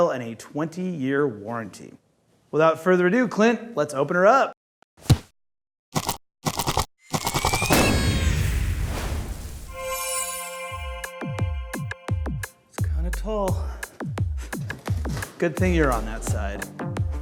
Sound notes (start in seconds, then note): 6.1 rustling; 8.0 party blower trumpeting; 10.3 upbeat electro music